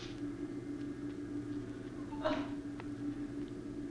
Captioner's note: she sobs